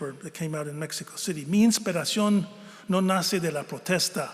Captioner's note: speaking spanish